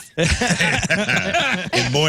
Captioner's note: laughing